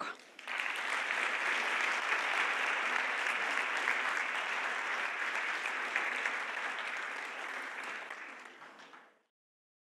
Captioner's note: applause